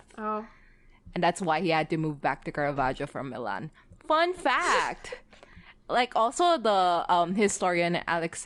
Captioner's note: laughs